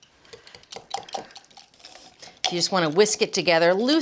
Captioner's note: whisk scraping